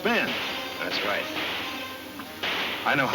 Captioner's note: guns firing in distance